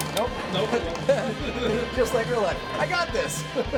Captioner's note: laughs